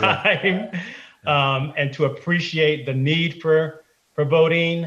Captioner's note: laughter